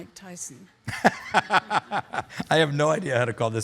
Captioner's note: laughing